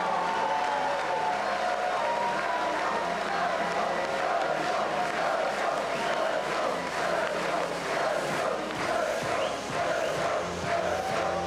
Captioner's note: cheers and applause